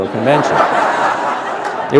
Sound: laughter

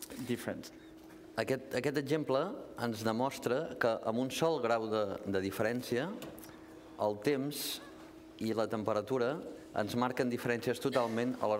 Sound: speaking catalan

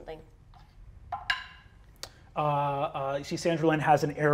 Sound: die taps table

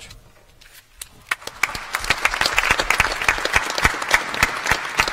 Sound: applause

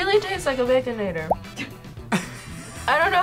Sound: laughs

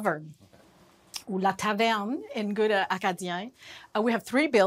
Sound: non-english speech

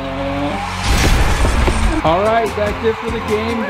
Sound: bomb exploding

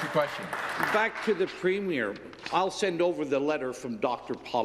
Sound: some Applause

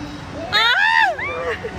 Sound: screaming

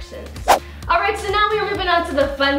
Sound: swooshing

